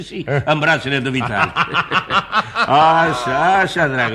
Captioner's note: laughs